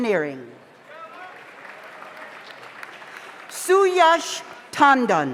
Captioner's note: audience applauds